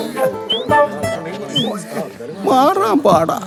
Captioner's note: moaning in pain